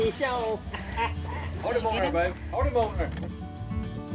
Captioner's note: friends cheering